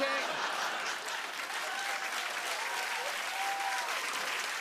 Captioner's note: cheers and applause